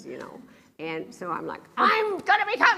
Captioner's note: yells